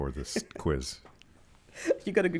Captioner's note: laughs